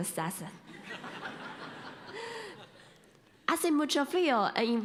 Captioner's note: laughter